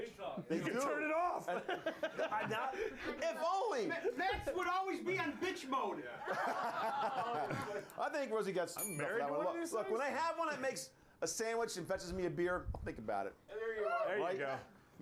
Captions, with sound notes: - YES, THEY DO. THEY DO. - TURN IT OFF. - IF ONLY! - MATT'S WOULD ALWAYS BE ON BITCH MODE. [Laughter] - I THINK ROSIE GOT [BELL RINGS]. LOOK, WHEN THEY HAVE ONE THAT MAKES A SANDWICH AND FETCHES ME A BEER, I'LL THINK ABOUT IT. RIGHT?